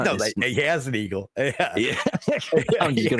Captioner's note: laughing